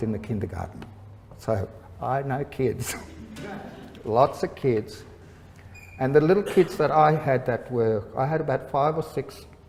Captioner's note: laughter